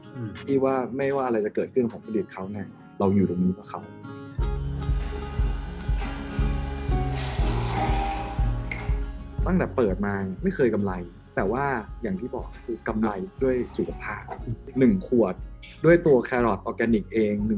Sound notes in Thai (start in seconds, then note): 4.5 เสียงเครื่องปั่น